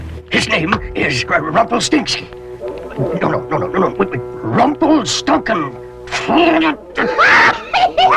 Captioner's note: cackling; angry mumbling